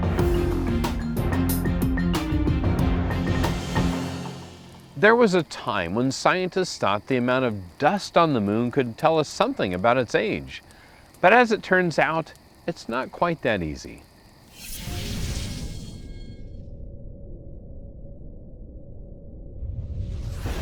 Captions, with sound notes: (intense dramatic music) - There was a time when scientists thought the amount of dust on the moon could tell us something about its age. But as it turns out, it's not quite that easy. (digital rumbling)